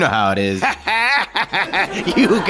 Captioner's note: laughs